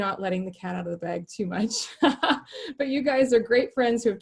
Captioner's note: laughing